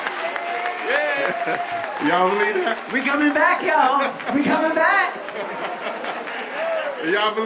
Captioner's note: laughter